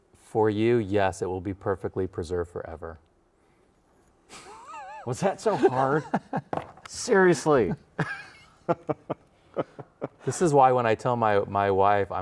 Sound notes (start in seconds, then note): 4.3 laughs; 8.8 laughs